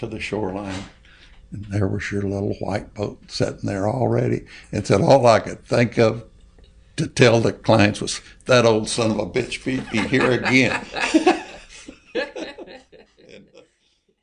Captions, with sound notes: to the shoreline and there was your little white boat sitting there already. All I could think of to tell the clients was ‘that old son of a bitch beat me here again’” (all laugh).